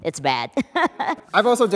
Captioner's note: laughs